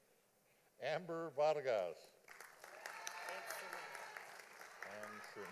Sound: audience applauding

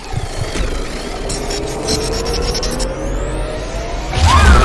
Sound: monster noises

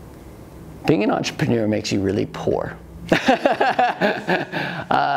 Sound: laughs

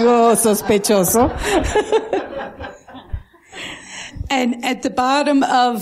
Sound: laughter

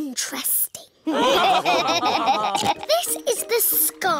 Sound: laughter; snorts

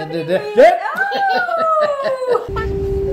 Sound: laughing

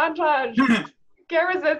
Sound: laughs

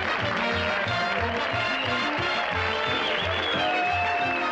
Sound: cheers and whistles

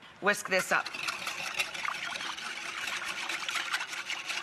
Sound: whisk whisking

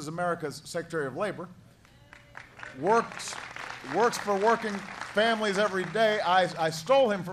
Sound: applause

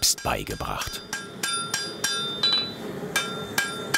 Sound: hammering on steel

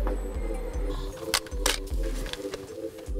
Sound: camera clicks

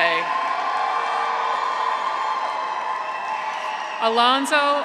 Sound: audience applauds; graduates cheer

